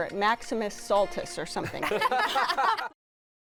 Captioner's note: laughter